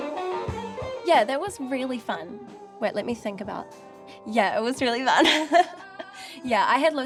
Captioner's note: laughs